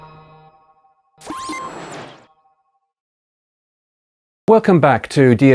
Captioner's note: logo chimes; logo beeps